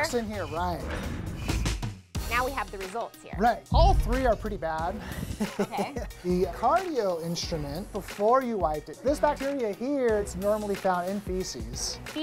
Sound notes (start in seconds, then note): 5.0 laughs